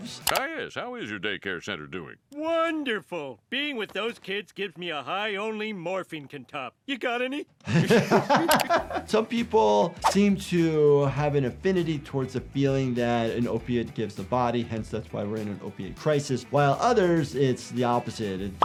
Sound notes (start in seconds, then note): 7.6 laughs